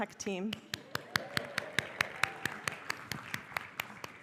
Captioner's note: applause